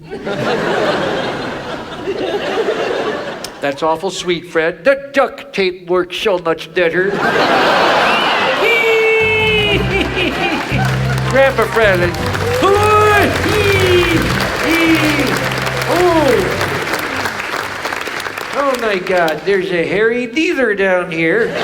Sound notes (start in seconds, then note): 0.0 audience laughs; 7.3 audience laughs; 8.9 laughs; 15.1 audience applauds